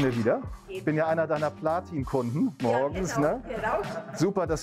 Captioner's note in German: lacht